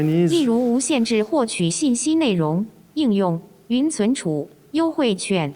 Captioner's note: foreign language